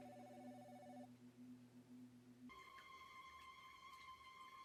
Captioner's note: phone ringing; suspenseful music on TV